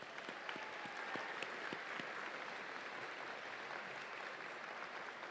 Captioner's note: audience applauds and cheers